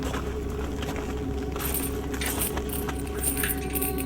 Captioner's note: chain rustles